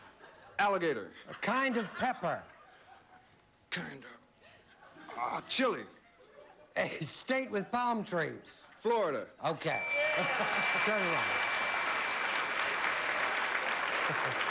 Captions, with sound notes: A KIND OF PEPPER. KIND OF... AH...CHILE. [CHUCKLES] A STATE WITH PALM TREES. FLORIDA. OK. TURN AROUND.